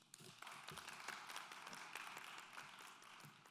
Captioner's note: clapping